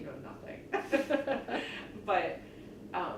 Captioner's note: laughs